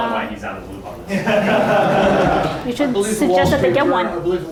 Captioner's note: audience laughing